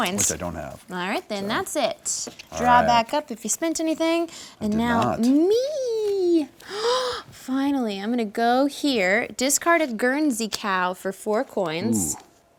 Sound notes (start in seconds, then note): 6.6 gasps